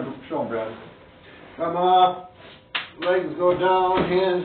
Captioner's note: hands slap